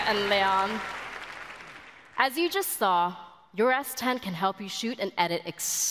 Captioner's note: applause